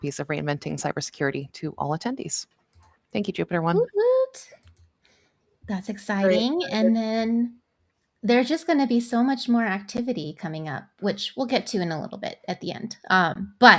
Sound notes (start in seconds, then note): 4.1 hoots